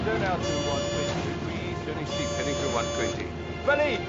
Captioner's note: pilot mutters; alarm beeping